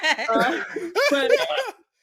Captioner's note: laughing